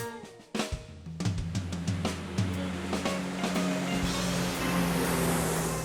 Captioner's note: truck engine revving